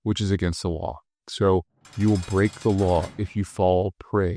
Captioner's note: metal ringing